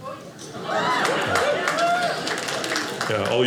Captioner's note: audience cheers